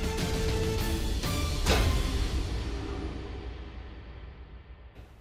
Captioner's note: dramatic musical build; thud